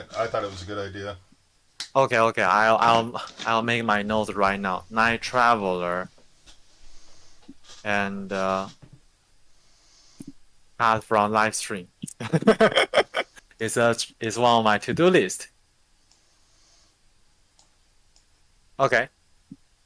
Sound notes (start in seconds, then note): 9.9 laughing